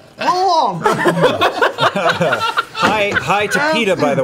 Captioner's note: laughter